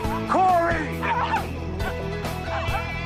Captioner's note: barking